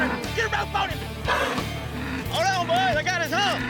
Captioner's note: cow grunting